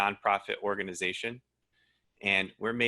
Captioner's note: breath wheezes